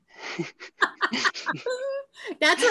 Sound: laughing

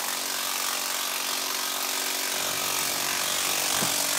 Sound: machines rattle in the background

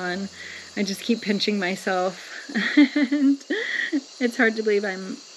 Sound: chuckles

